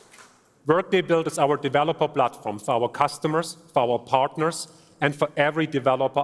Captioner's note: applause